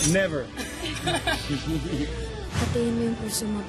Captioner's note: chuckling